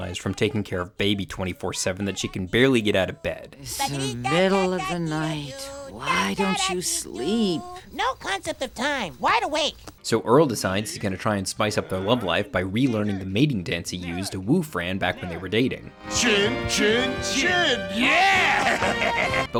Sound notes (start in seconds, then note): 7.1 baby humming; 18.0 chuckling